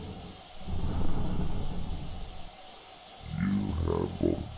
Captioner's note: breathing